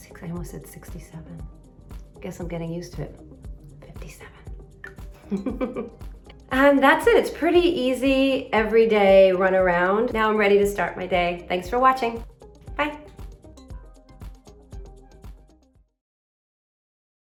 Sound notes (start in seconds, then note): 5.2 giggles; 13.9 upbeat music